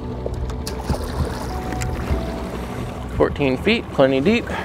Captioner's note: water sloshing